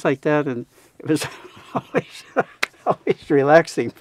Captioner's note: laughs